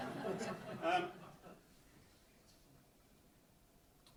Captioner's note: audience laughs